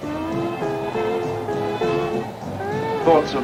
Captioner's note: wind blowing